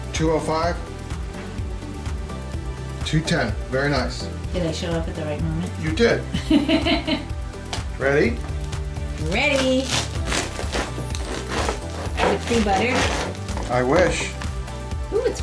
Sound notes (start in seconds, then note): 6.3 laughing; 9.5 crunching